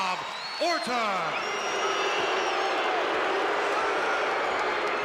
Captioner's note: crowd boos